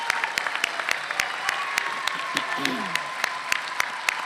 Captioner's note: applause